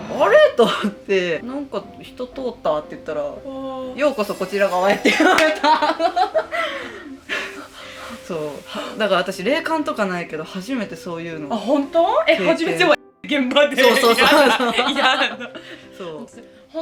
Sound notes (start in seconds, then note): 5.0 laughs